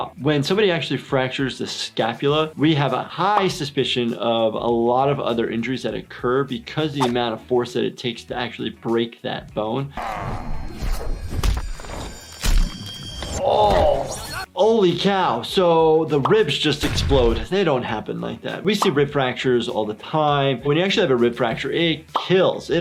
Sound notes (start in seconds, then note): 10.0 grunting; 11.1 slamming and crunching noises